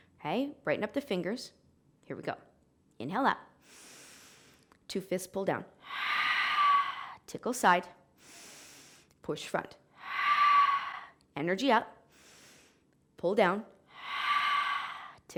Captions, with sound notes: Okay. Brighten up the fingers. Here we go. Inhale up (inhaling), two fists pull down (exhaling). Tickle side (inhaling), push front (exhaling). Energy up (inhaling), pull down (exhaling).